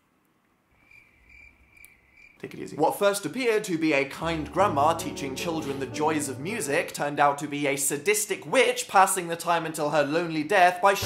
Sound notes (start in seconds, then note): 0.7 crickets chirping; 2.1 mumbling inner monologue